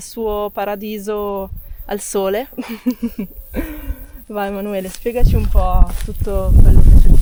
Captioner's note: laughter